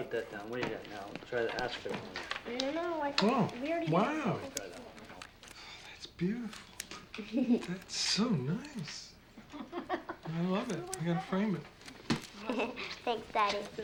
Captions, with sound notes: Oh, wow! Oh, that's beautiful. That's so nice. (CLAIRE LAUGHING) I love it. You got to frame it. (GIGGLES) Thanks, Daddy.